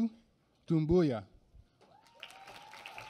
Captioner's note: applause